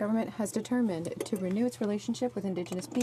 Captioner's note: speaking French